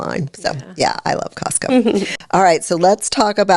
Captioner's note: laughing